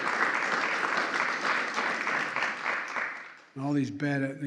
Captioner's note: applause